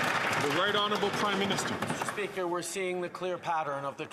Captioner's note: some Applause